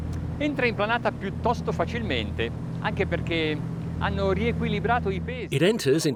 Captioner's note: speaking foreign language